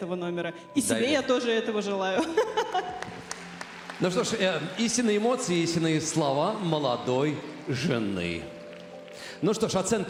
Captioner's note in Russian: смех